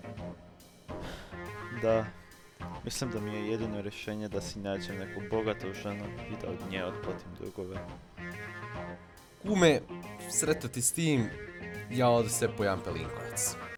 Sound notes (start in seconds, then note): 0.9 sighs